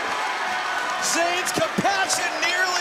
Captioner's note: crowd chatter